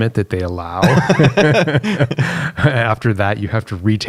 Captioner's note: both laughing